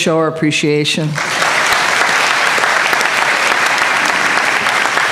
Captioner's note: applause